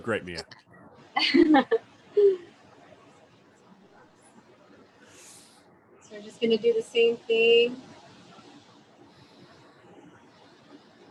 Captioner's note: chuckles